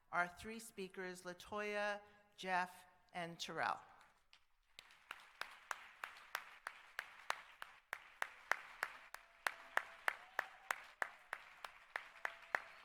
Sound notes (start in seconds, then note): 3.7 applause